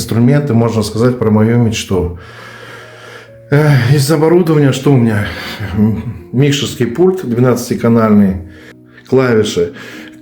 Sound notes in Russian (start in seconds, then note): 2.3 тяжело вздыхает; 2.3 вздыхает